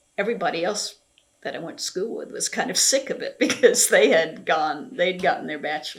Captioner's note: laughs